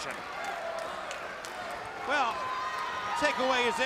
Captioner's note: crowd chatter